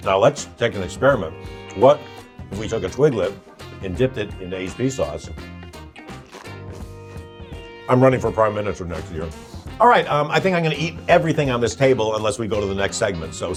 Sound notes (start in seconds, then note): 6.1 Twiglet crunches